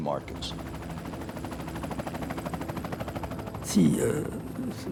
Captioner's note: helicopter blades whirring; speaking in French